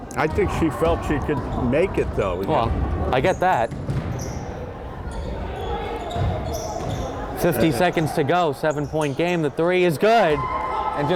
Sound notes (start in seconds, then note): 5.0 crowd chattering